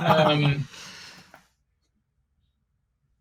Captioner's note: laughing